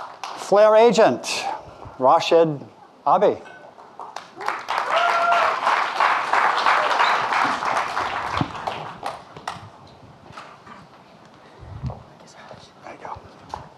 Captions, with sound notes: - Flare Agent, Rashid, Abi. (audience clapping) There you go.